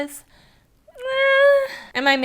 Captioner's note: unsure sigh